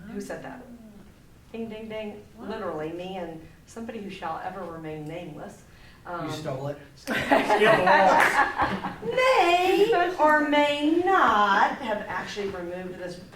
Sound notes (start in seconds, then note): 7.1 group laughs